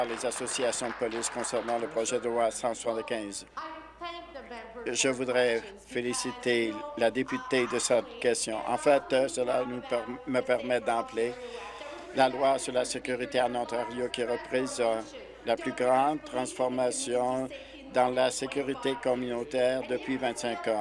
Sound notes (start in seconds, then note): 3.2 applause